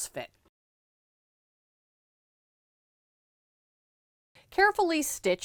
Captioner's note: no Sound Present